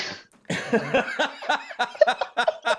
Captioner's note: laughter